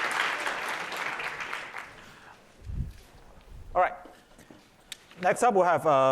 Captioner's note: applause